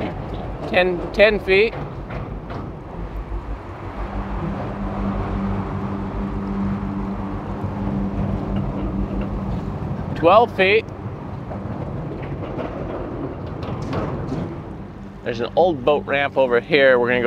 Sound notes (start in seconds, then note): 4.9 suspenseful synth music; 11.5 bridge rattles